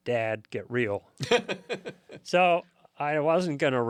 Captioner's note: laughs